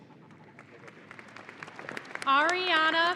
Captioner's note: audience applauding